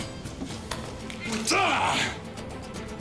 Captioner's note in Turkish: Bağırma sesi